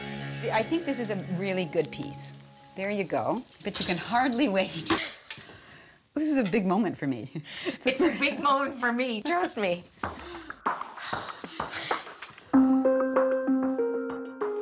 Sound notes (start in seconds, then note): 10.2 sighs; 12.5 calm music